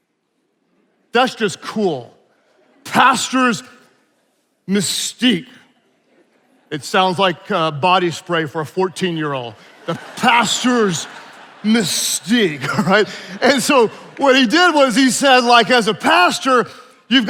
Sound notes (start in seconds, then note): 6.0 attendees laughing; 11.9 attendees laughing